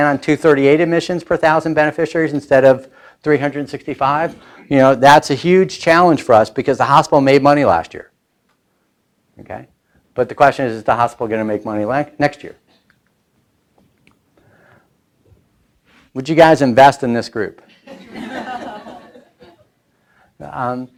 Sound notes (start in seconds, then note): 17.8 laughing